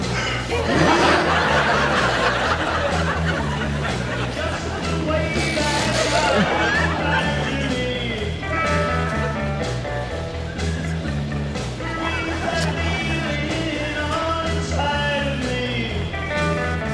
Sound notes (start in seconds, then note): 0.0 breathes deeply; 7.3 gagging